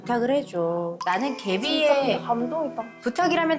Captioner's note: choked-up sound effect